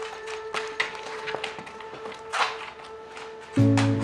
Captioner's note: shoes rustling; suspenseful music; gentle music